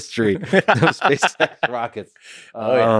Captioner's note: Tim laughs